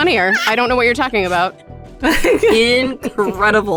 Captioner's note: EVERYONE laughs